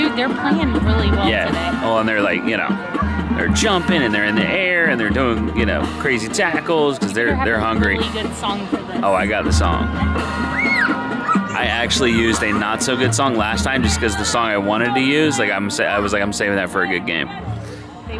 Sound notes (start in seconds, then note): 10.4 child screams